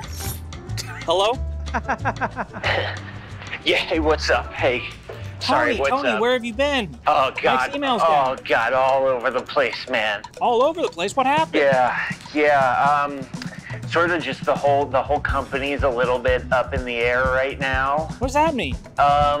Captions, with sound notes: - Hello? (laughing) - Yeah, hey, what's up? Hey, sorry, what's up? - Tony, Tony, where have you been? - Oh, God. - Nick's email is down! - Oh, God, all over the place, man. - All over the place, what happened? - Yeah, yeah. Sort of just the whole company's a little bit up in the air right now. - What does that mean?